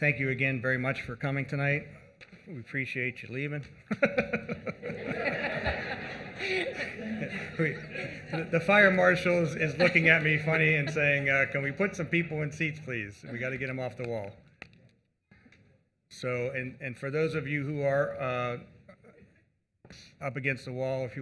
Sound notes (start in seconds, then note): 9.4 laughter